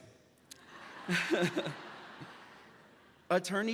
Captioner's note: graduate laughing; laughs